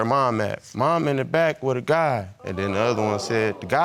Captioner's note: audience exclaiming